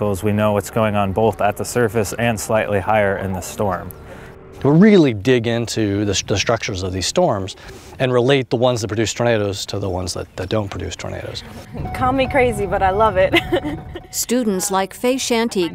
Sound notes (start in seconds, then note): 13.2 laughs